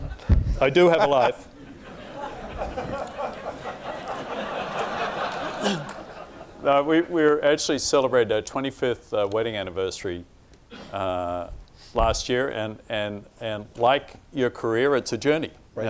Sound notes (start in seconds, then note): 0.8 laughing